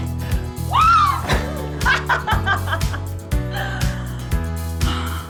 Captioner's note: laughs